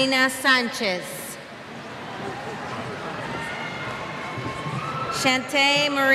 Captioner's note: cheers